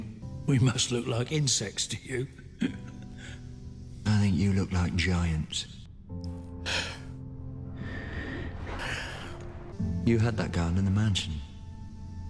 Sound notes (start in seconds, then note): 7.7 emotional exhale; 7.7 emotional sigh